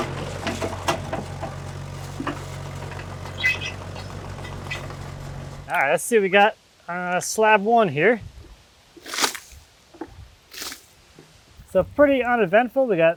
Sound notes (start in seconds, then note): 0.0 engine revving; 8.8 water sloshing